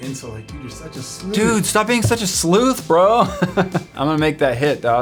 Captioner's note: laugh